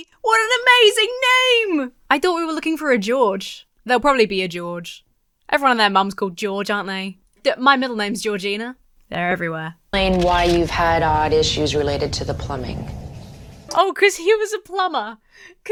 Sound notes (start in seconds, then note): 12.4 water running